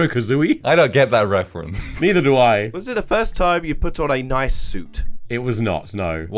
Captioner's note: laughs